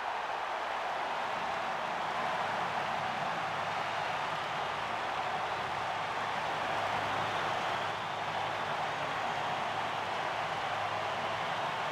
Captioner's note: applause; cheering and Applause